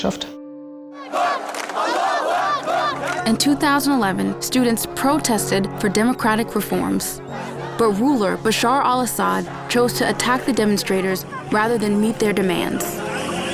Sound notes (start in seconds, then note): 1.0 chanting; 2.9 in English